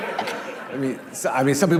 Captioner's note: laughing